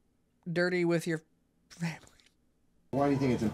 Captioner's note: laughs